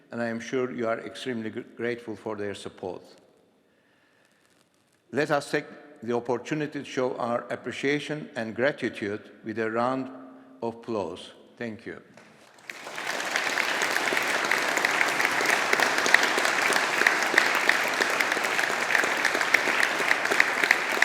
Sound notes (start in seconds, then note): 12.4 audience applauding